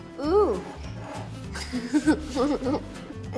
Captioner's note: chuckles